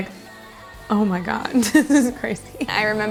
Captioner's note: laughs